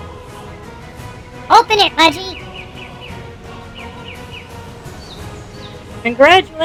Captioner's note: excitedly